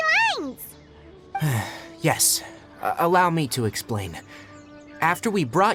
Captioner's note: sigh